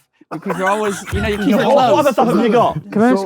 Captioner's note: group laughs